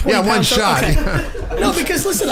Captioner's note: laughing